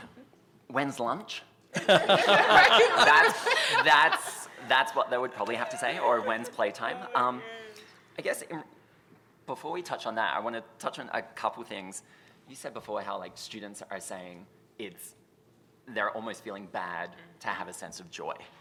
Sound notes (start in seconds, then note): 1.7 laughter